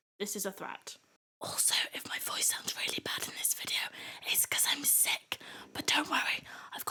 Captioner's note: whispered